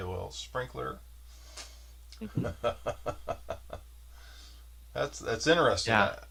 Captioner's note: laughs